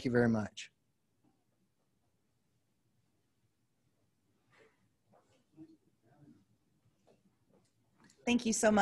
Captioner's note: silence